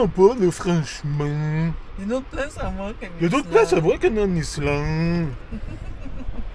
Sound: laughs

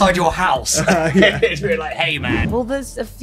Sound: laughing

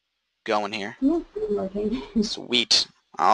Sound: students murmuring

